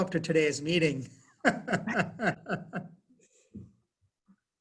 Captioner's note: laughs